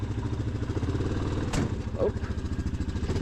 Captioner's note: loud bang